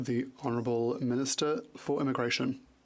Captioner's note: speaking French